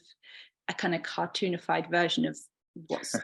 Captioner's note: laughing